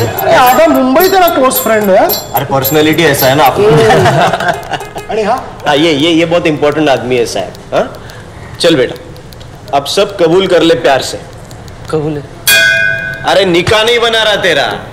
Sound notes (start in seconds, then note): 3.4 people laughing